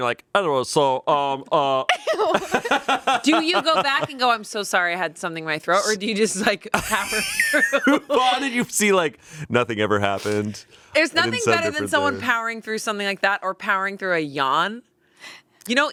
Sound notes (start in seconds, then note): 1.9 laughing; 6.7 all laughing